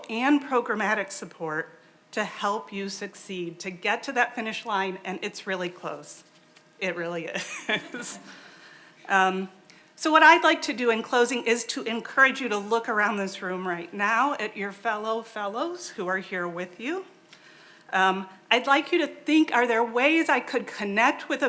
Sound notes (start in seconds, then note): 7.4 laughs